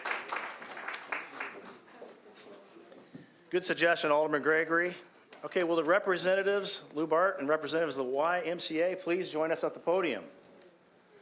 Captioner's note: applause